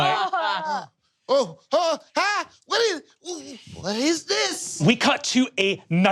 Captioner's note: panicked screaming